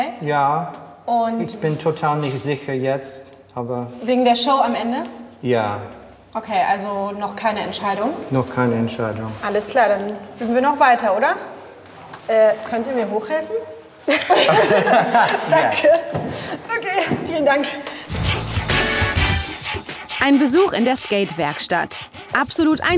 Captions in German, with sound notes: Ja. Ich bin jetzt total unsicher ... - Wegen der Show am Ende? Ja. - Okay, also noch keine Entscheidung? Noch keine Entscheidung. - Alles klar. Dann üben wir noch weiter, oder? Äh, könnt ihr mir hochhelfen? (Sie lachen.) Danke. Okay, vielen Dank.